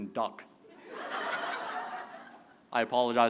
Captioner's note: laughter